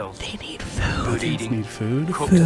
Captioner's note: whispers